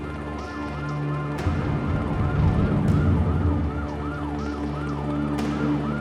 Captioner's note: sirens blaring; tense music